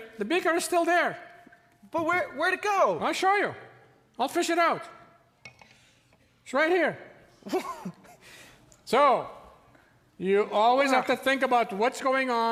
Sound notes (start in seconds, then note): 7.4 Tin Man laughs in amazement